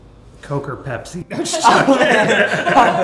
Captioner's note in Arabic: يضحك